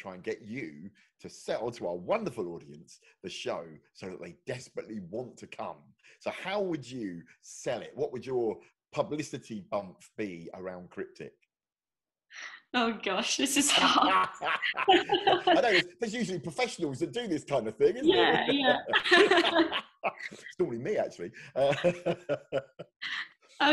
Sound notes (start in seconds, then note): 13.6 both laugh; 19.1 both laugh; 21.1 laughs